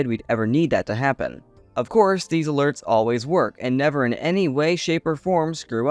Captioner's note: sarcastically